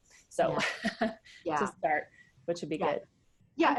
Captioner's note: laughs